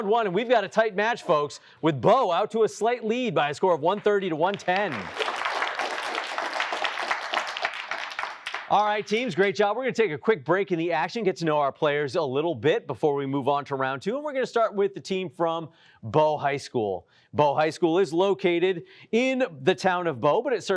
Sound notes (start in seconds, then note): 3.8 applause